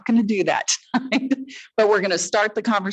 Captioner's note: laughs